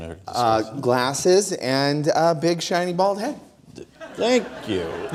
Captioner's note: audience Laughter